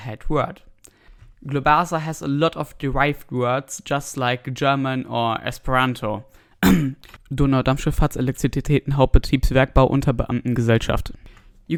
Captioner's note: cough